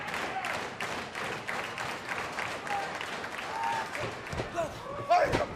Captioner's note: clapping